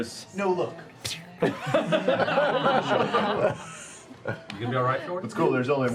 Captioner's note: laughter